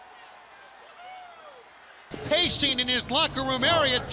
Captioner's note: crowd cheering; crowd chatter